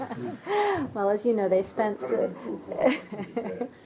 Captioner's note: laughter